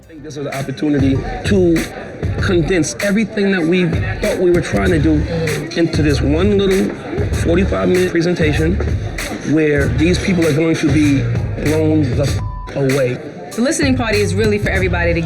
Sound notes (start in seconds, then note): 12.3 beep